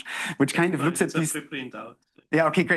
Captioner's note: student speaking faintly